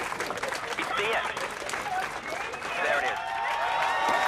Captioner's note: crowd cheering